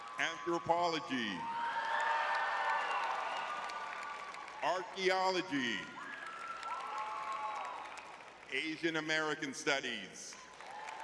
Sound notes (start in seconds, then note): 1.0 audience cheering